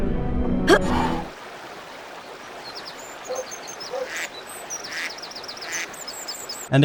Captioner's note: river runs, birds tweet, ducks quack